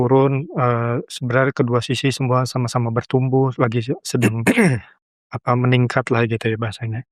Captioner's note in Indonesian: berdehem